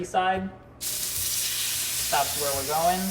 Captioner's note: meat sizzling